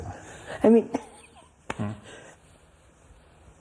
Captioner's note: laughs